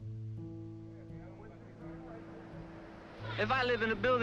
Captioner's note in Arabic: موسيقى حزينة; الناس يتحادثون